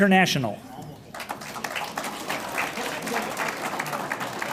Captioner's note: audience applauds